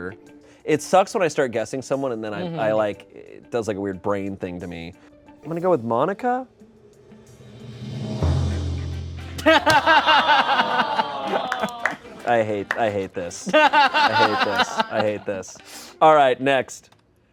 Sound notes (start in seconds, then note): 7.2 laughter; 9.4 audience groans